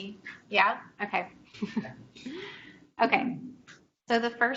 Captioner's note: chuckles